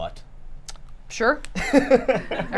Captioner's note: laughter